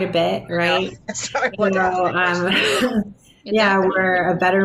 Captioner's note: chuckling